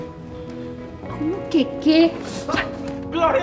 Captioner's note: spanish